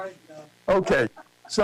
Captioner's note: laughter